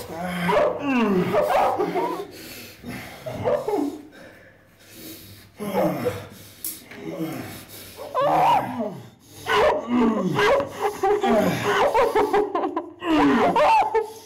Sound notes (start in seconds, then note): 5.6 grunts; 8.3 Linda screams and sobs; 9.4 grunts